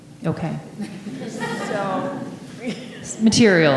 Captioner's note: audience laughing